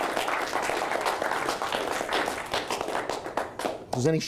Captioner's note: applause